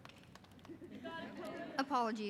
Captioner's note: audience murmurs agreement